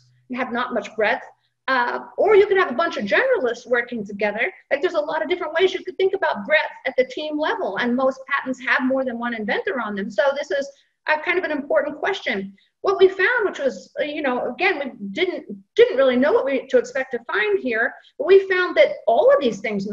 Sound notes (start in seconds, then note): none